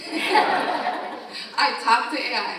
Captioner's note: audience laughing